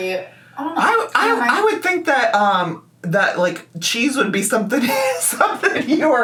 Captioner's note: laughs